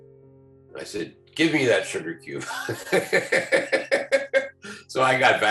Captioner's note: laughs